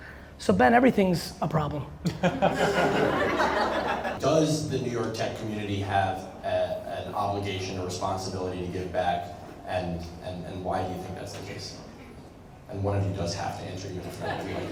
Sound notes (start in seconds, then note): 2.0 laughter